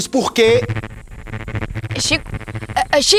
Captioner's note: interference